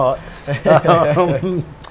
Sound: laughs

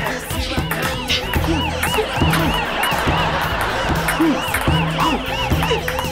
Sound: siren blaring

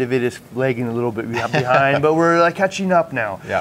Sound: chuckles

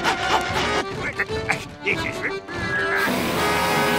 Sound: grunting

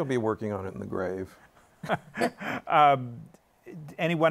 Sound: laughter

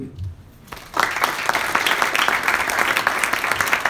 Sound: applause

